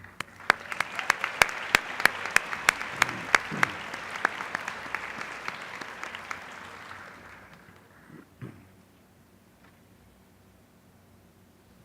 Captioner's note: applause